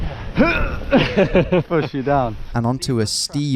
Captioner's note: groans; laughs